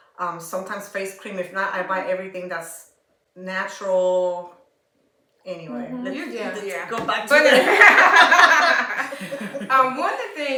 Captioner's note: laughter